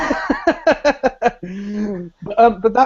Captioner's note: laughs